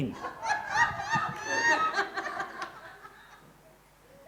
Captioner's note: crowd laughing